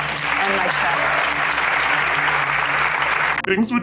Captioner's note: applause